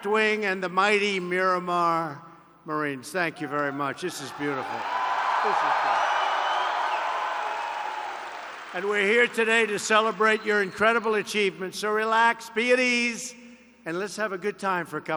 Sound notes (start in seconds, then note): 4.8 applause